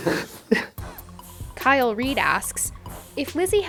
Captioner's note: voiceover